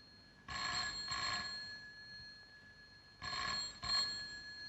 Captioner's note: ringing continues